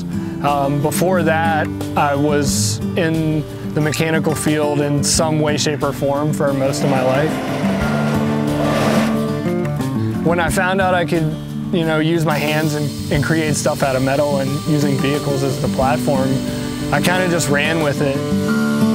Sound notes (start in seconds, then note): 8.1 sound of metal bumper scraping asphalt